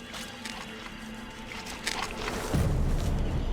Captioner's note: squishing; rustling